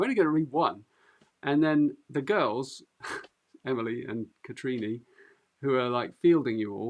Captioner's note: chuckles